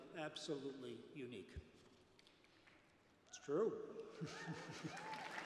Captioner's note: cheers and applause